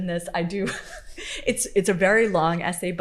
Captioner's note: laughing